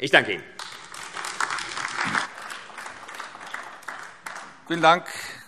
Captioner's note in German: Beifall AfD